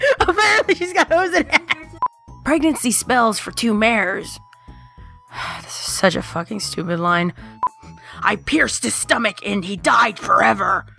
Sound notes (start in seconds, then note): 5.2 sigh